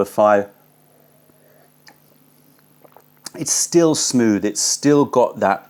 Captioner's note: sips tea